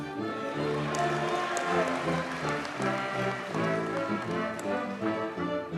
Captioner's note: audience cheers and applauds